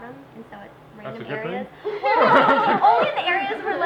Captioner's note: laughs